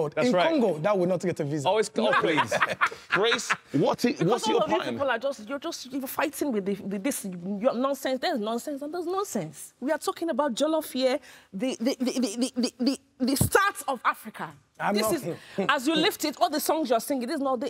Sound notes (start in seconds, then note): 2.1 everyone laughs